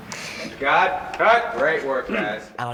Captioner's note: in normal voice